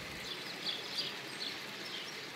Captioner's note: birds chirping